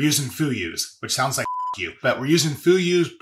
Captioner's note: beep